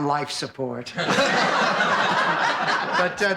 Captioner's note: laughing